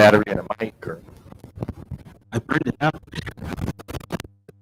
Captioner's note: microphone howling